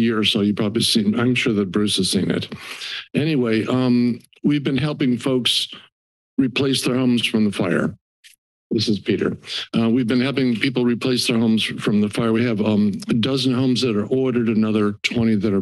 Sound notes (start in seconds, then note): 2.5 inhales